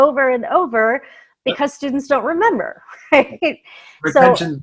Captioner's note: laughs